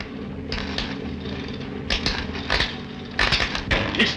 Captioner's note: machine buzzes